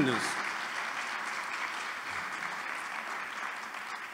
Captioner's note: applause